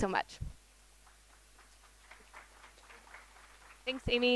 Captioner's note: applause